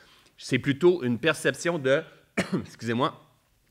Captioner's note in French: tousse